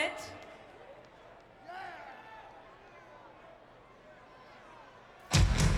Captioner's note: audience chattering; upbeat music